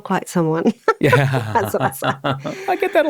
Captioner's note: laughs